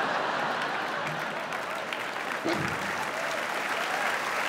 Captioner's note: audience laughing; audience applaud